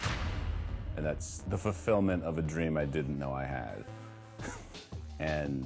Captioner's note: chuckles